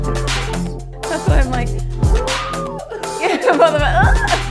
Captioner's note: laughing